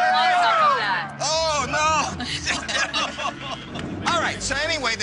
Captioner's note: other laughing